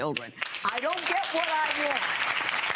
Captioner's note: audience clapping